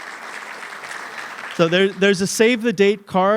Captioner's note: applause